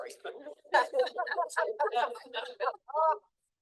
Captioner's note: group laughing